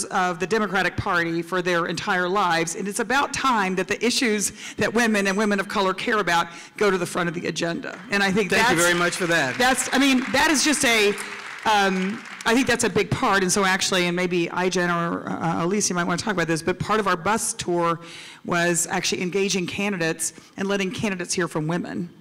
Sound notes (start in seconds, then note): 7.9 applause